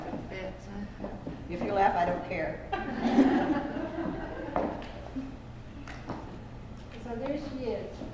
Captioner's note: laughter